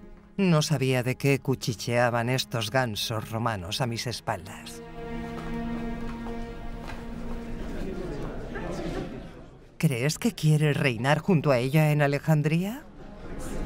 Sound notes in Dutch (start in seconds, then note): 7.1 gasten kletsen